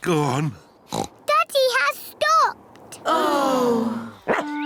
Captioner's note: oinks; all sigh; barks